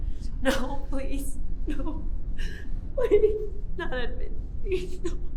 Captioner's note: crying